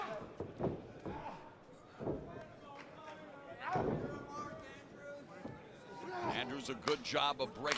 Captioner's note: crowd chatter